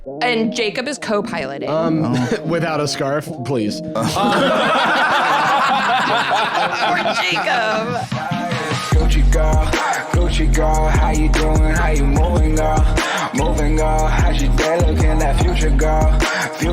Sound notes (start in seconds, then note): 4.0 all laughing; 7.9 outro music